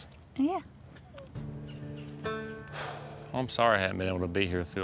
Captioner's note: exhales